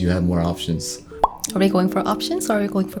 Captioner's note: pop